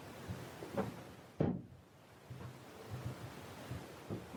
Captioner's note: drawer closing